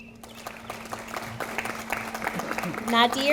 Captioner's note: audience applauding